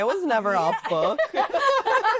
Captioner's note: laughter